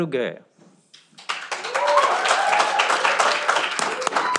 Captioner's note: cheering